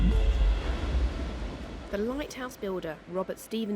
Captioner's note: water splashing